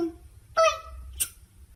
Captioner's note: smooch